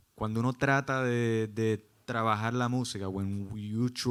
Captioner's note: speaking Spanish